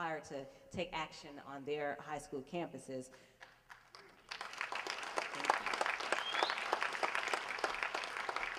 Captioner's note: applause